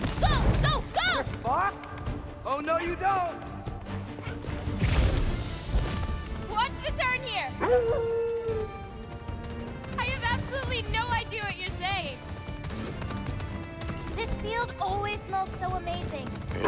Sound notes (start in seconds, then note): 7.6 howl